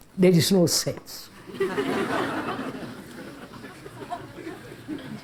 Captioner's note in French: Rires